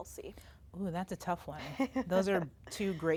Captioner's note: laughs